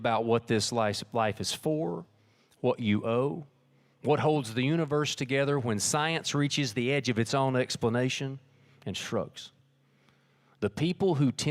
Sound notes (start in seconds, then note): none